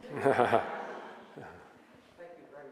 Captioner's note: audience laughs